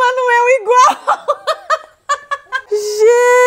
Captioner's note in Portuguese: risos